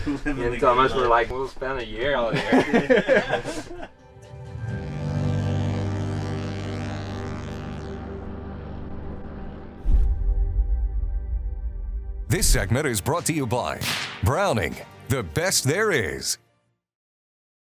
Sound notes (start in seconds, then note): 1.9 all laughing; 4.5 plane engine buzzing; 4.5 uplifting music; 13.8 gun shooting